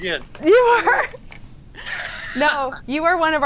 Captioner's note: laughs